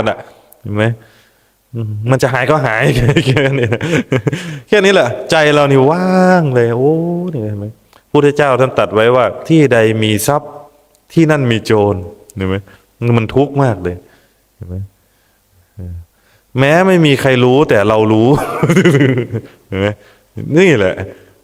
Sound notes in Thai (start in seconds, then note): 2.8 เสียงหัวเราะ; 18.3 เสียงหัวเราะ